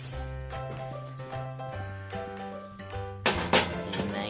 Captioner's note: clanging noises from the oven